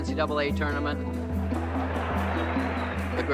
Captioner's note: crowd laughs and cheers